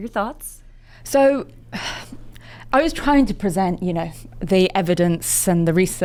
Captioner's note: sighs